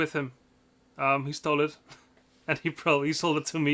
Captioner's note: chuckles